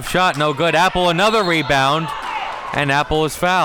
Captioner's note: whistle blows